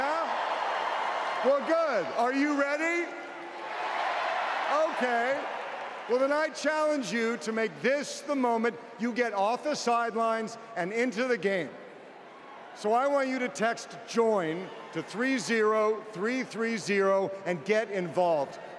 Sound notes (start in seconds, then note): 5.0 cheers